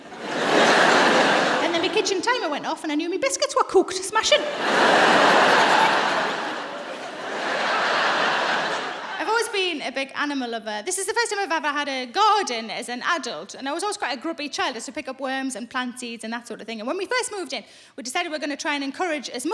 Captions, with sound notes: (LAUGHTER) Then my kitchen timer went off and I knew my biscuits were cooked. Smashing. (LAUGHTER) [laughing]I've always been a big animal lover. This is the first time I've had a garden as an adult. I was quite a grubby child. I used to pick up worms and plant seeds. When we first moved in, we decided we were going to try and encourage